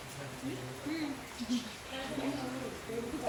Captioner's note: girls chatting